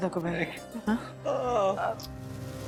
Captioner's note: moans